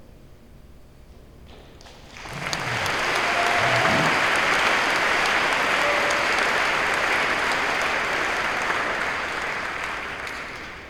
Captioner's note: applause